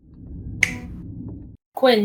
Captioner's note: snap